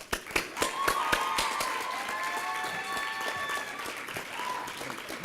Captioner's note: applause and cheering